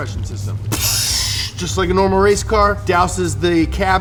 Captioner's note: water sound effect